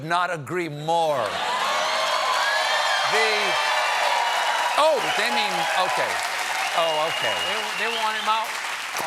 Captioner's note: cheers and applause